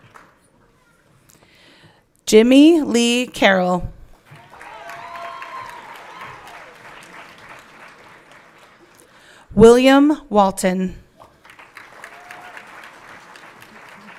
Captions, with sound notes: Jimmy Lee Carroll. (everyone clapping) William Walton. (everyone clapping)